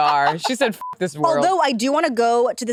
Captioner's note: beep